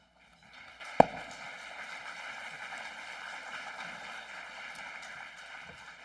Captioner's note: applause